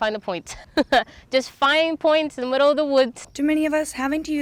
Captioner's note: laugh